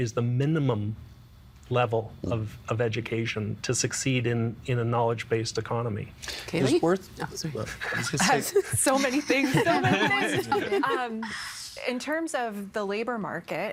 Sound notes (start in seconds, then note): 7.7 laughing